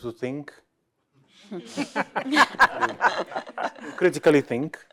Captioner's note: laughter